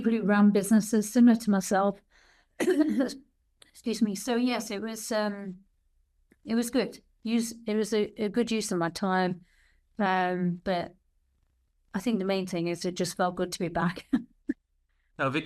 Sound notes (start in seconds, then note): 2.6 coughs